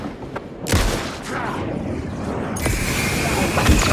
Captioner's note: gun firing; gun firing